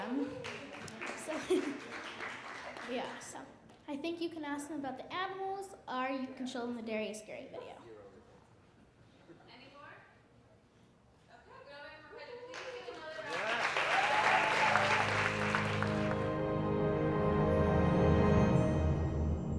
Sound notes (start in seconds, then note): 0.0 audience clapping; 13.2 audience cheering; 16.6 dramatic music